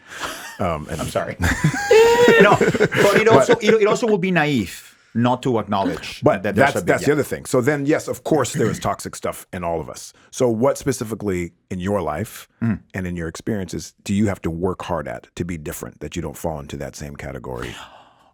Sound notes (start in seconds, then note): 0.1 Jaime laughs; 1.9 gasps; 1.9 laughs